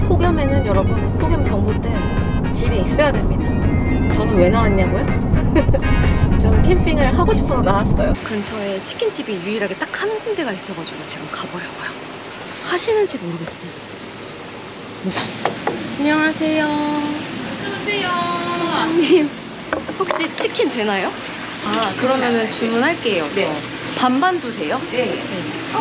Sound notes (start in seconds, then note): 15.4 knock